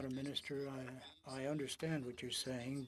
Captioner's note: speaking French